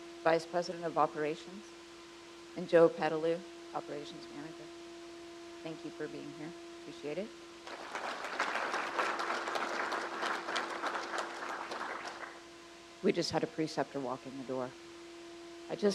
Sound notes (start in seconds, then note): 7.6 crowd applauds